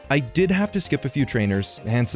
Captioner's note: none